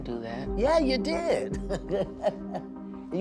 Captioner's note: laughs